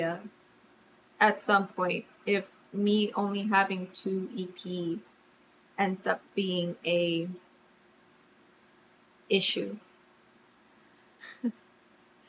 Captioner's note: laughs